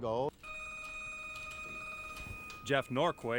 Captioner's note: telephone ringing